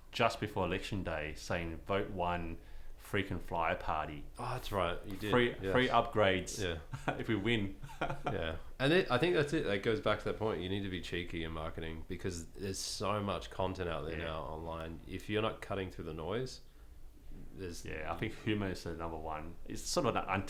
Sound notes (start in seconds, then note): 7.8 laughs